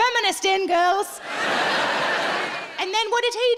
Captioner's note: audience laughing